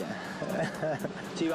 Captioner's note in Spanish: ríe